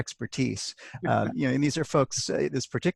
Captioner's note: laughs